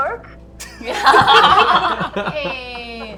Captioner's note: laughter